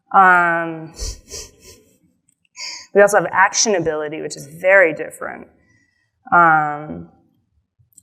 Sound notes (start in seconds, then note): 1.0 chuckles